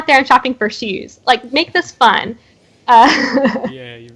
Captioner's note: laughs